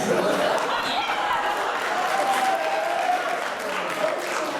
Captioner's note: cheers and laughter